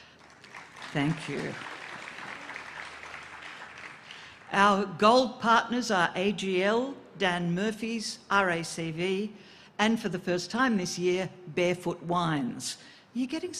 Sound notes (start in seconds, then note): 3.6 applause